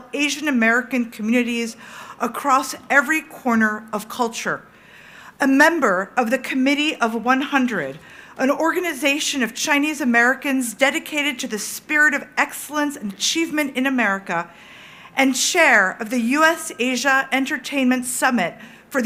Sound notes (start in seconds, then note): none